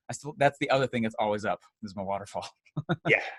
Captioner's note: laughs